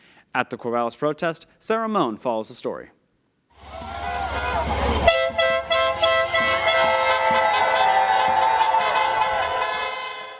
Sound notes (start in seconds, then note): 3.6 protest chants